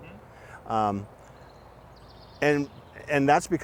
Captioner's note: birds chirping